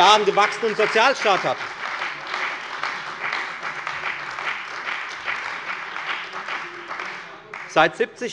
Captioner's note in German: Beifall bei der FDP, der CDU und bei BÜNDNIS 90/DIE GRÜNEN